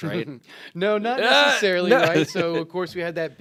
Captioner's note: groans